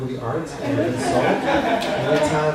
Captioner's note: laughter